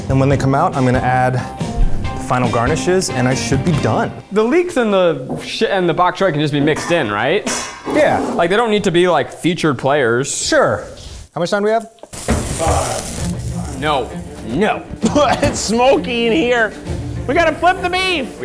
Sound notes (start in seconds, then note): 14.9 coughs